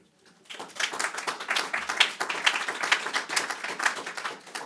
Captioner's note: audience applauding